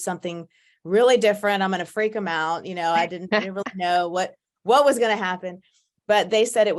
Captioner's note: laughs